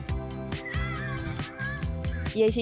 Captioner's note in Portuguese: grito